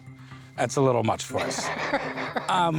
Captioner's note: laughs